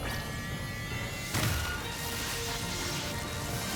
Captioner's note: explosion